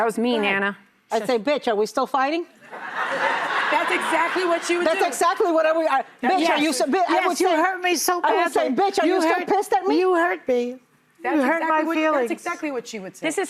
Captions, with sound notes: - That was mean, Anna. - I said, bitch, are we still fighting? (audience laughing) - That's exactly what you were doing. - That's exactly what we are. - Bitch, you hurt me so bad. - I said, bitch, I was pissed at me. - You hurt me. - You hurt my feelings. - That's exactly what you were saying.